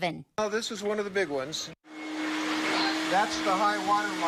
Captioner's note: water splashing